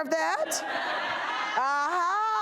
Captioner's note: audience laughter